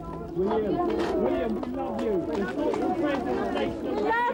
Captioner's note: crowd shouting